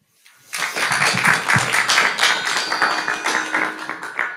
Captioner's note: crowd applauding